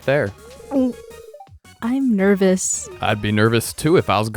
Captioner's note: gulp